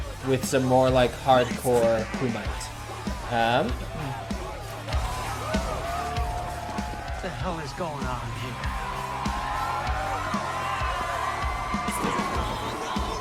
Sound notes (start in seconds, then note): 5.3 crowd shouts; 9.6 upbeat rock music plays